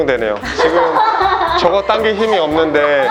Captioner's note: laughter